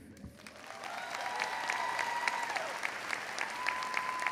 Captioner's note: crowd applauds